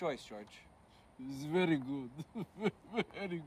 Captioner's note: george chuckles